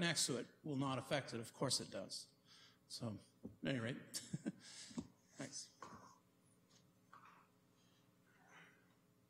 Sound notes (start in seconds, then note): 4.1 chuckles